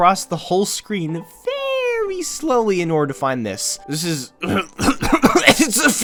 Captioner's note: coughing